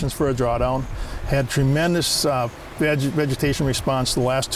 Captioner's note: none